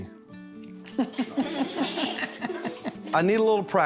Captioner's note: everyone laughing